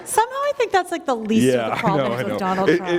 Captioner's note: laughter